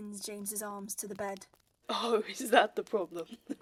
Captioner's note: James laughs